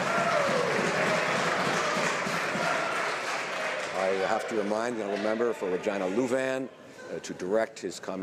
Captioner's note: some Applause